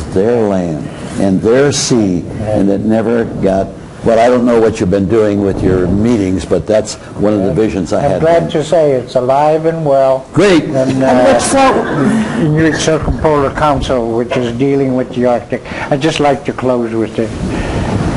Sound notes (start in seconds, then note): 10.8 crowd laughs; 11.0 enthusiastically